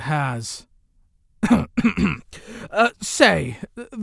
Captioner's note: Afton clears his throat